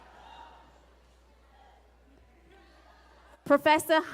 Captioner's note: laughter and cheers